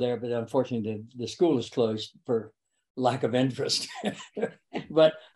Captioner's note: laughs